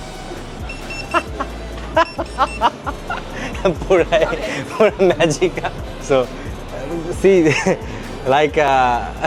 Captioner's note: loud laughter